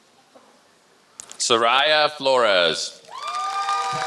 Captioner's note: applause